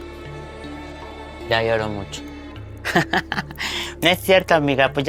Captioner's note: laughs in blonde